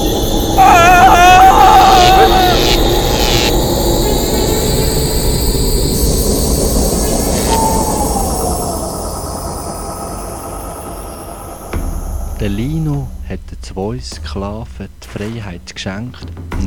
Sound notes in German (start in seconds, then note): 0.3 Markerschütterndes Geschrei